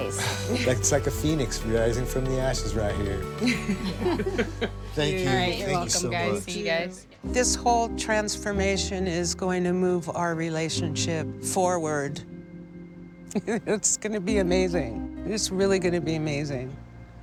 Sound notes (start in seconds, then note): 3.4 laughter; 13.3 laughs